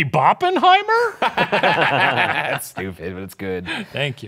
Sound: everyone laughs

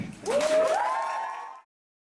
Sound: audience applause

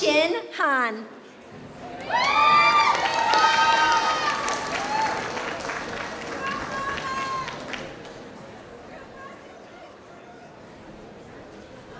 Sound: applause

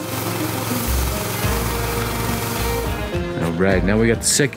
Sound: machine humming; water swishing

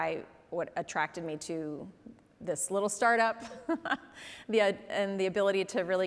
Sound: laughs

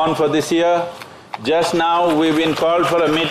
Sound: applause

